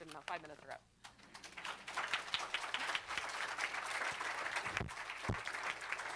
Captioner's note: applause